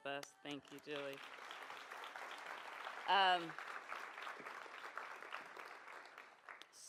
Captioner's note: applause